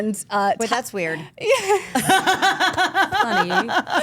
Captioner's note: group laughs